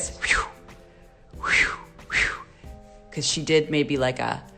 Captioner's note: whooshing